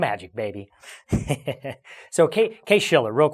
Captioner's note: laughs